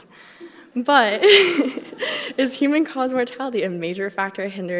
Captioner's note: laughs